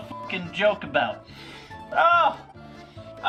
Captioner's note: sniffs